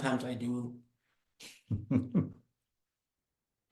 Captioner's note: chuckles